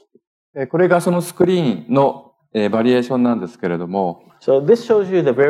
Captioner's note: speaking japanese